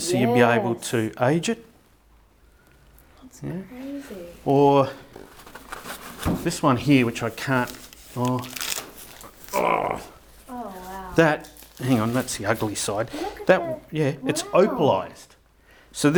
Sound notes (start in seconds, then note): 5.6 crinkling; 9.2 groaning